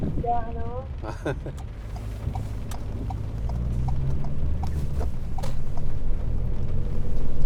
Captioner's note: chuckling; turn signal clicking